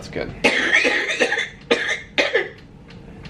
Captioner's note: coughing